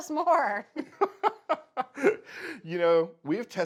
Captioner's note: chuckles